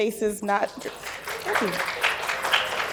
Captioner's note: applause